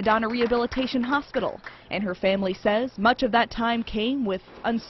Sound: applause

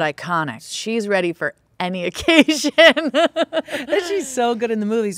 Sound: laughing

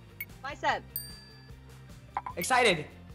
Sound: bell dings

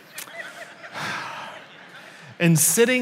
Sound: sighs

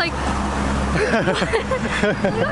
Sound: laughter

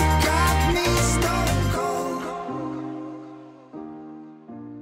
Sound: none

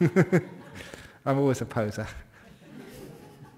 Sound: laughter

